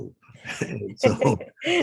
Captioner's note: laughter